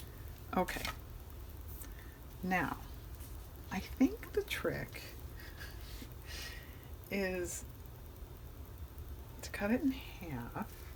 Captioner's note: laughs